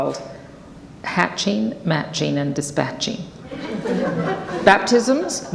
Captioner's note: audience laughs